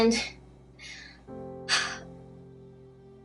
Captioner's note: sigh